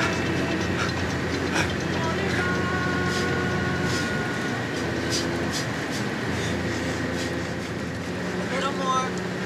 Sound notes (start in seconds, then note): 4.7 loud breathing noises